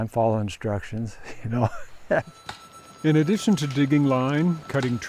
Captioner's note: man laughing